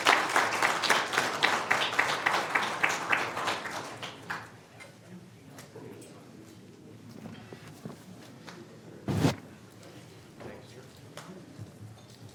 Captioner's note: cheers and applause